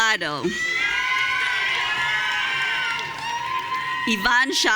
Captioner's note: audience cheering